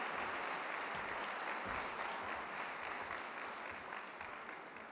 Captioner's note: applause